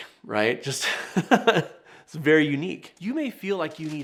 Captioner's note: chuckles